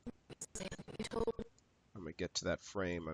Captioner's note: audio skipping